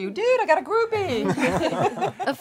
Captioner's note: laughs